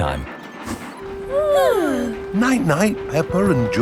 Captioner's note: both yawning